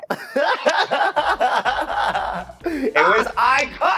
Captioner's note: both laughing